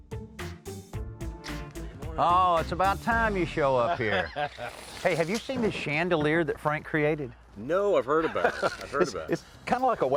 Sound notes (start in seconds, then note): 3.8 laughing